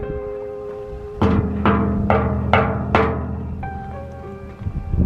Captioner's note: metal knocking noise